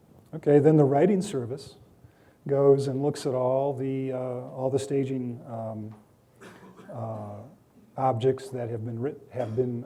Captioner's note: coughing